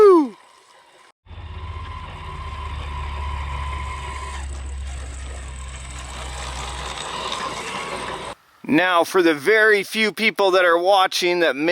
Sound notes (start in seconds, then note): 1.2 engine roaring softly